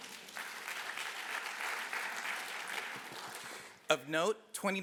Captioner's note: applause